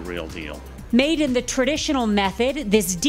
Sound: voiceover

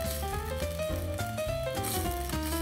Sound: sizzling ingredients

